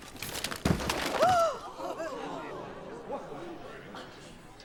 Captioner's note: everyone gasping